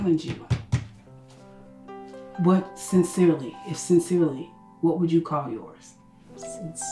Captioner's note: banging on the table